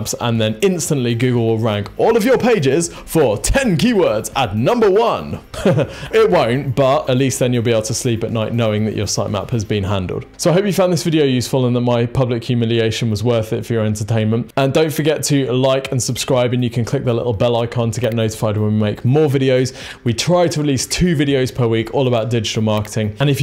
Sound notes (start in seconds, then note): 5.5 laughs